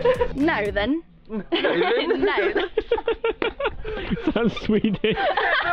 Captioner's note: all laughing